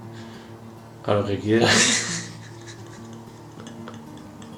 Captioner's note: laughing